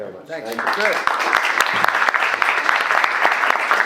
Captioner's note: applauding